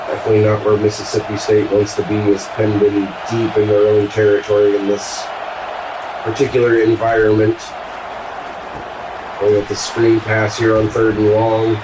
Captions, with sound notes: I clean up our Mississippi State once the beam is pinned in deep in our own territory in this particular environment. [Crowd Noises] We'll get the screen pass here on third and long.